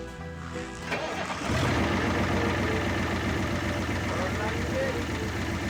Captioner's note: engine turning over